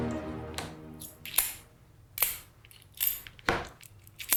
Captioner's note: coins clinking